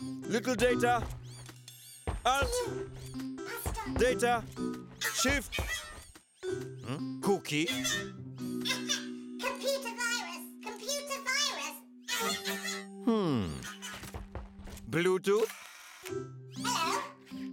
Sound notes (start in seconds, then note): 5.5 coughs; 7.7 coughs; 13.0 coughing; 15.4 machine whirring